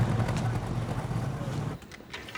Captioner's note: laughing